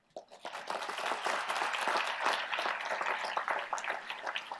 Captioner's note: applause